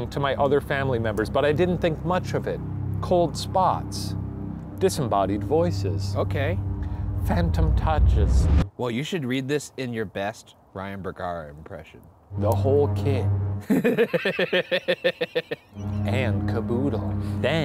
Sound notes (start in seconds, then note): 13.6 laughs